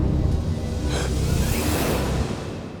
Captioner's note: gasping